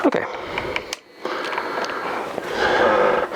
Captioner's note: sounds of camera adjusting